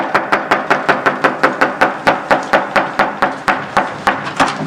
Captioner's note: pounding on door